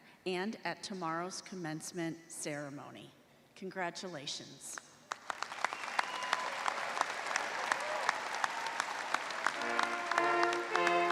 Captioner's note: cheers and applause